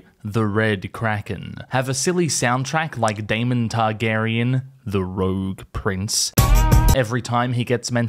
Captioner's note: bwong